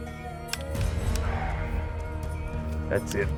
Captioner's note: sighs